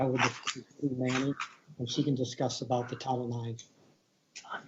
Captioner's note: distorted sound